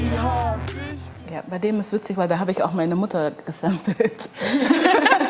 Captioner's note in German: Lachen